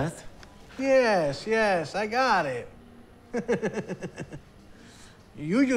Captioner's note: chuckles